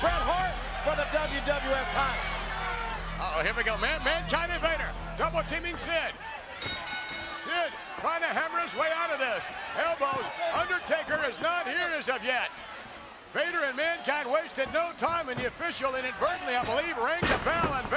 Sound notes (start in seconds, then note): 6.6 bell dings